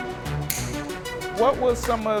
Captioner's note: snipping